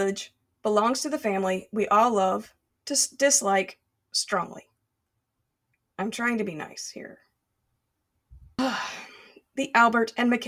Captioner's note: sigh